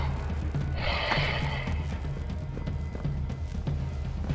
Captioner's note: footsteps; eerie music